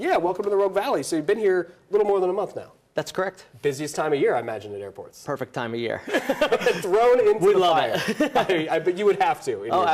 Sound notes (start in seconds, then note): 6.1 laughs